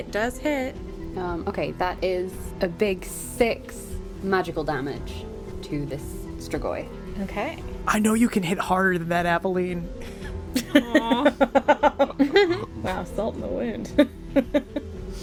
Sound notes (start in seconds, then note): 10.5 laughter